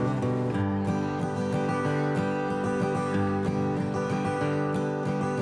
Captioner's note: none